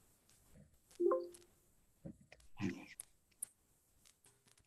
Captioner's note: computer pings